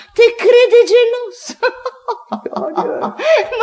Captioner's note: laughs